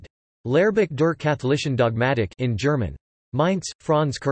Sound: in German

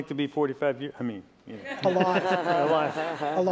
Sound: laughter

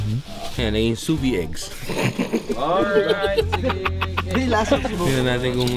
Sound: laughs

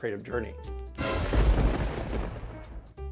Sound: thunder!!!!

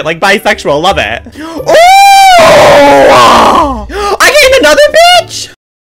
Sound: gasp

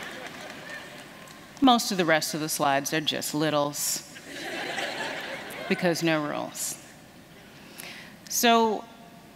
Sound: laughter

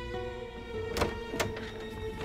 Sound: sound of door opening

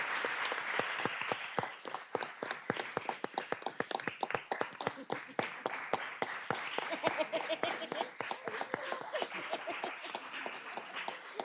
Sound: applause

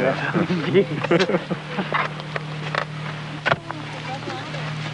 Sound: tools scrape

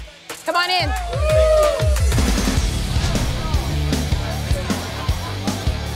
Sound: cheers

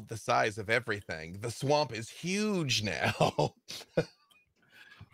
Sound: laughs

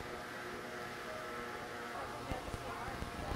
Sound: buzzzzzzz

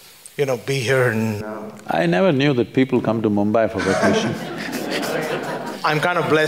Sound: laughter

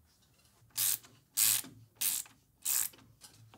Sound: ratcheting

